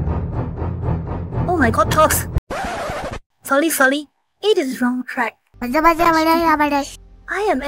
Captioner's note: toddler girl makes gibberish noises